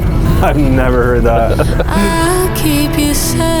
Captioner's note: laughs